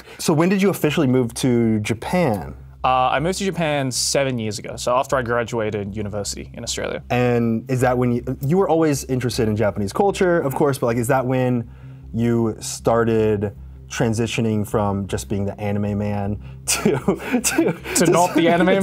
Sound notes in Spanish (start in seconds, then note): 16.8 ríe